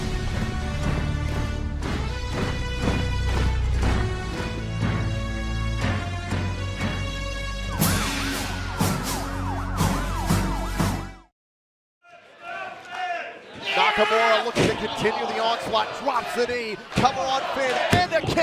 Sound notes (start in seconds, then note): 7.6 sirens